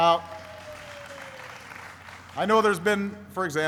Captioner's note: applauding